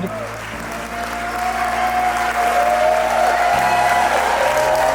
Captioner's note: crowd cheering